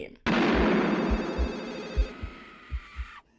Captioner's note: gun fires